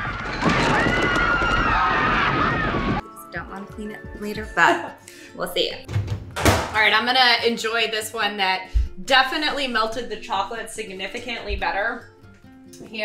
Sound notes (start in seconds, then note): 0.0 people screaming; 4.6 laughs; 6.6 microwave clinks